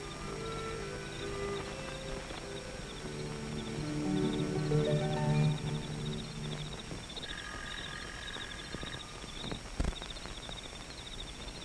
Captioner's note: crickets chirping